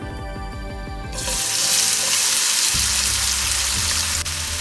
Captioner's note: oil sizzling